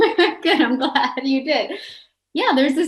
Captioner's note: both chuckle; laughing